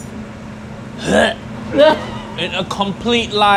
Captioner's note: Uncle Roger grunting